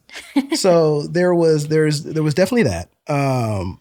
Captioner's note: laughter